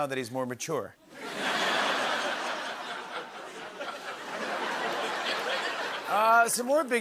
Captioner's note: laughter